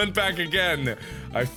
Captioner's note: gasp